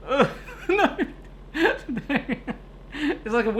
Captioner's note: laughing